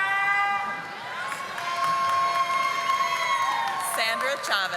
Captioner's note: audience applauding